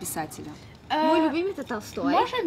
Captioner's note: speaks in Russian